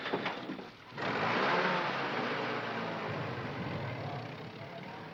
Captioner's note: engine chugging